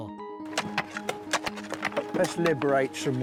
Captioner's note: tools scratch at soil